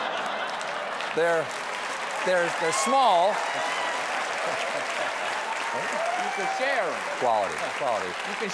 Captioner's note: laughter; applause